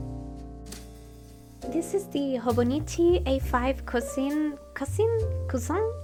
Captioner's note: French accent